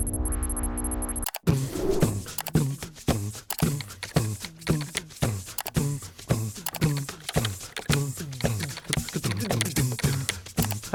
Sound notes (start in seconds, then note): 0.2 upbeat electronic music; 4.9 computer keys clicking